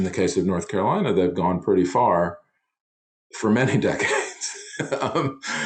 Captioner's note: laughs